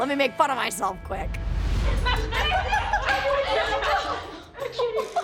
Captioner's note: laughing